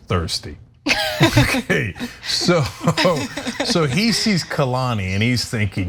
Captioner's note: laugh